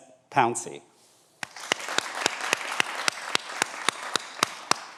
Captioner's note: everyone applauds